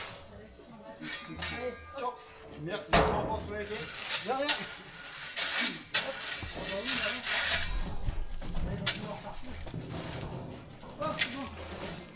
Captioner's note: speaking in foreign language